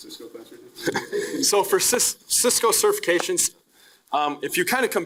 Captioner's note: laughing